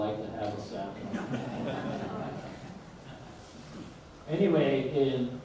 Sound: audience laughs

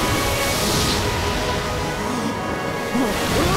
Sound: gasping

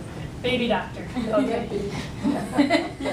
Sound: laughs

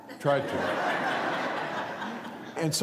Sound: laughter

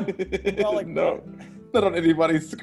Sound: laugh

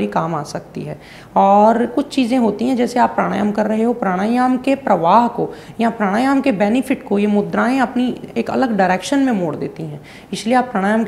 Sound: breathing exercise; breathing exercise

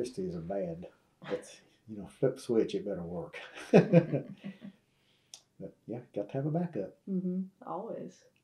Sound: laughs

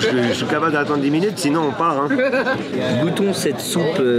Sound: laugh

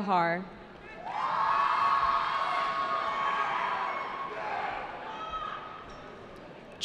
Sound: cheering

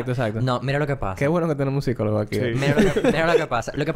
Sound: laughs

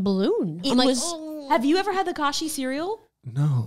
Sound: moans

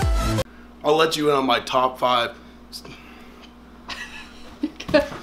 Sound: bright music; laughs

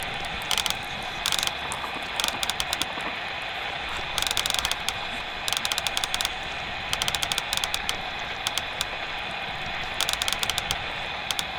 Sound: applause

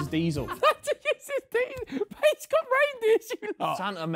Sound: laughing

